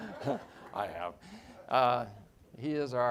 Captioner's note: all laughing